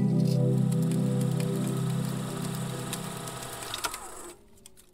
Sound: film reel crackling

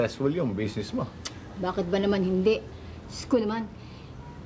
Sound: clicks tongue

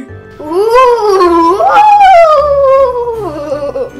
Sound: spooky noises

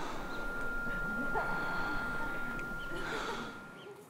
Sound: gasps for air

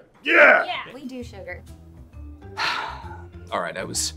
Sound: exhales loudly

